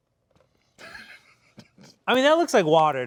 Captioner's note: snickering